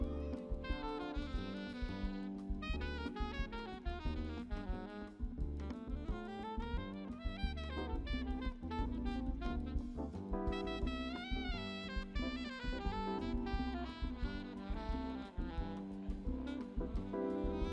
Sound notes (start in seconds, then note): none